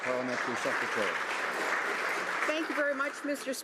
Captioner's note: some Applause